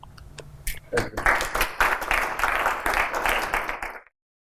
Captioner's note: applause